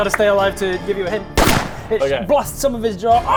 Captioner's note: bang!